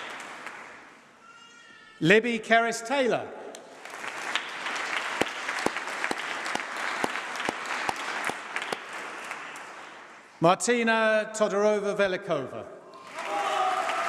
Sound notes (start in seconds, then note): 3.7 applause; 12.6 applause